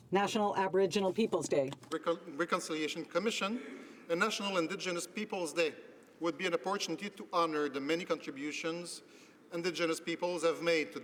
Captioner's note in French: voix de l'interprte